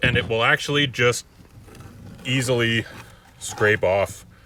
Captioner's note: none